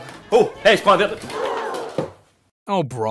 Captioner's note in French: cris horrifiés